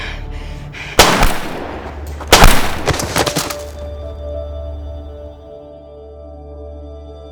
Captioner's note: soft somber music; gun blasting